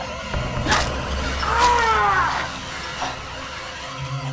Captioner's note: Anvil Al groans; screwdriver crush